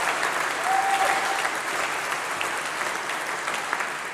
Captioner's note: applause